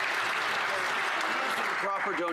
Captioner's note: some Applause